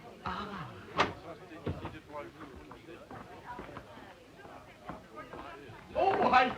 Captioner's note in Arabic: ثرثرة خافتة للضيوف